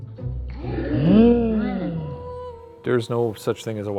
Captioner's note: instrumental music; all gasp